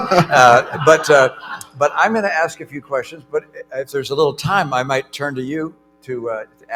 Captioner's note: laughter